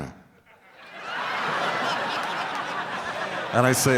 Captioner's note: crowd laughing